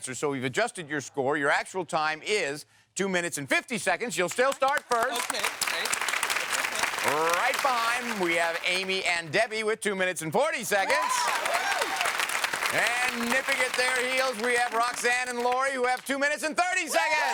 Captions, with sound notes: So we've adjusted your score. Your actual time is two minutes and 50 seconds. You'll still start first. (audience applauds) Right behind, we have Amy and Debbie with two minutes and 40 seconds. (audience cheers) And nipping at their heels we have Roxanne and Lori who have two minutes and 30 seconds!